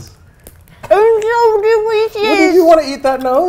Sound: baby talk

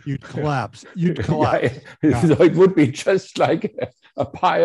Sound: laughs

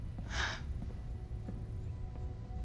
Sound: sighs

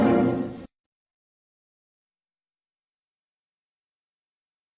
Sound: silence

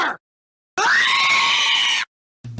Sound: screaming

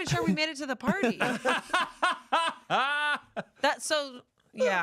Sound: everyone laughs

